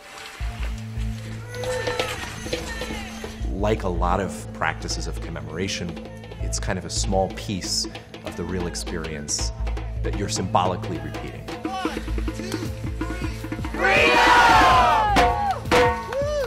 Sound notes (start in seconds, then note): 0.0 clothes rustling; 1.3 drums beating; 1.4 people yelling; 1.7 crowd; 15.2 drums beating